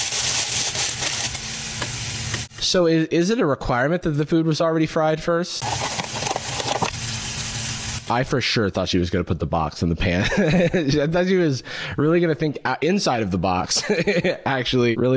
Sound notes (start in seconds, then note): 10.5 laughs